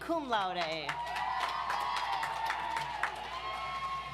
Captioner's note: audience applauds